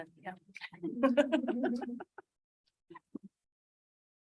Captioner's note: laughs